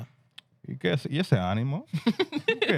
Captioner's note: speaking Spanish